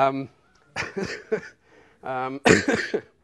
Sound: laughs

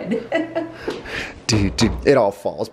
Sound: knocking

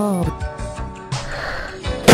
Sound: sigh

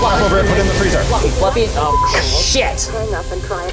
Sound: dial tone; beep

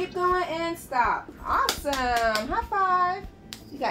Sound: applause

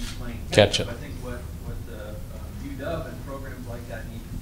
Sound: voiceover

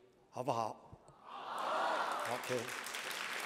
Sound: speaking chinese

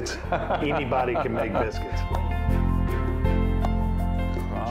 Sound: laughing

